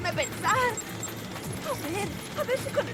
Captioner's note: beeping